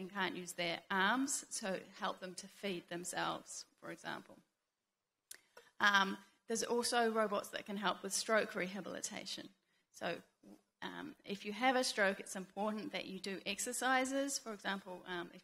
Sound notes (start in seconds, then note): none